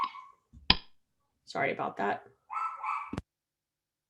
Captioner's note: dog barking